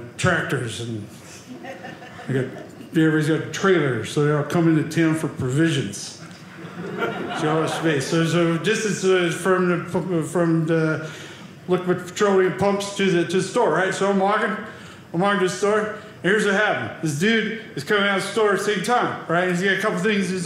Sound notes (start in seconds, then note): 6.4 audience laughing